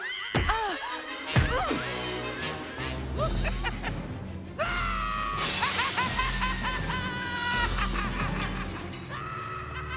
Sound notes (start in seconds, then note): 4.6 Joker laughing maniacally